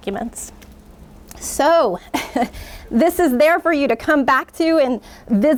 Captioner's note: laughs